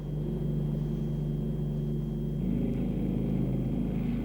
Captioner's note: engines roaring